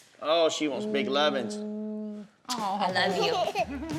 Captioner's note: smooch; laughs